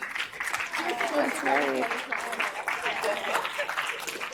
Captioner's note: audience applauds